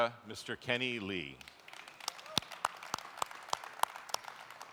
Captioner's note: applauding